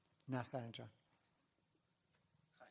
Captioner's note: non-english